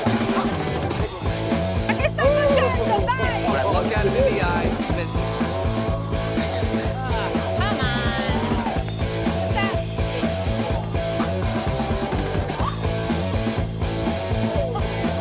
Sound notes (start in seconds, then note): 2.2 speaking in Italian; 12.5 upbeat music